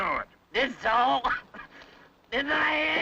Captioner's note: chuckles